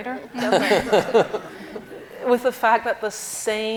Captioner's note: panel laughing